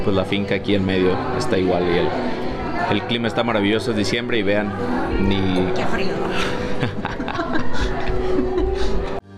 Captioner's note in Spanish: risas